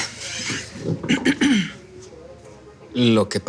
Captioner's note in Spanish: Carraspea